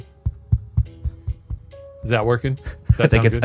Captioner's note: mic thudding